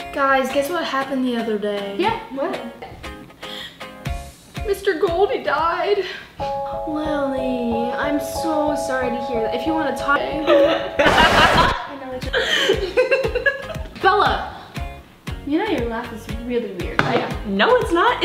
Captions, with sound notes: - Guys, guess what happened the other day. - Yeah, what? - Mr Goldie died. (Somber music) - Lilly, I'm so sorry to hear that. If you want to talk. (awkward laughing) Bella, you know your laugh is really weird right.